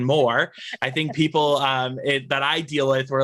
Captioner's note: laughs